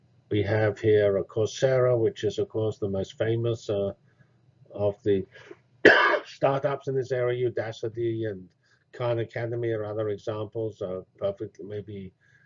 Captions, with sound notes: We have here a Coursera which is of course the most famous of the [COUGH] start ups in the area, Udacity and Khan Academy are other example probably,